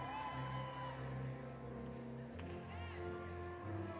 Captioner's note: audience cheering